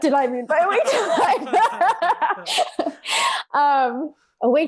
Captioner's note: laughs